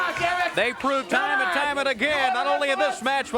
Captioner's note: crowd cheering